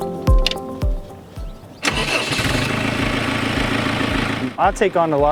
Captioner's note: birds singing; tractor engine running